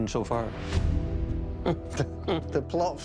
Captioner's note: chuckling